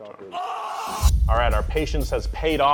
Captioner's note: man screams